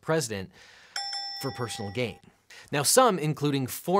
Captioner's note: bell dings